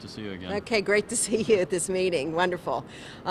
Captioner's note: chuckles